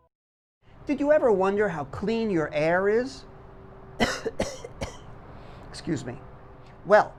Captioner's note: coughs